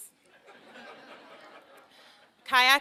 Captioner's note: laughter